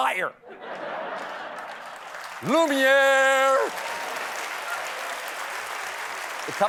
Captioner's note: laughter; applause